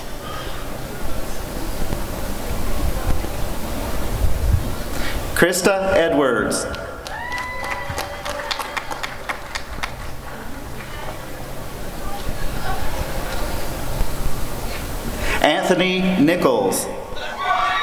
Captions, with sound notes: Krista Edwards [applause and cheering] Anthony Nichols